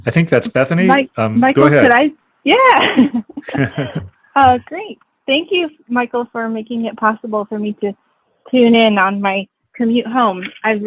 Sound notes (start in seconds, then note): 2.7 laughing